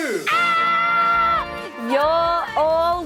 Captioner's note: screams excitedly